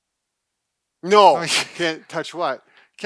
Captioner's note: laughing